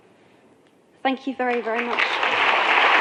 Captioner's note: applause